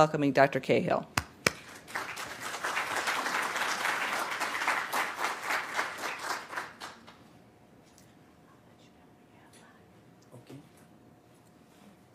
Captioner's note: applause